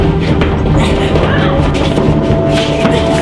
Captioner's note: both grunting